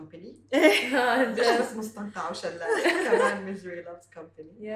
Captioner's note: laugh